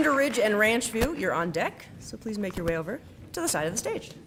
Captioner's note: applause